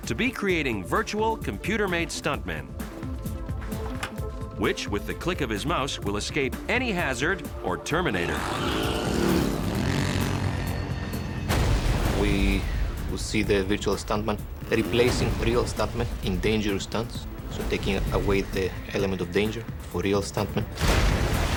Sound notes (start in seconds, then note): 9.2 engine rumbling; 9.2 explosion bursting